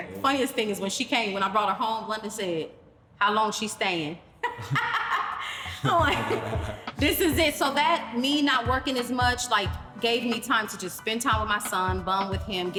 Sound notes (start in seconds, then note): 4.4 both laugh